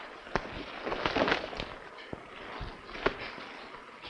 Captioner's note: wind howling; coat rustling